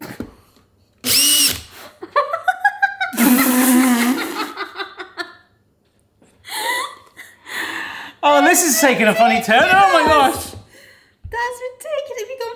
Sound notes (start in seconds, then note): 1.0 drill whines; 1.9 both laughing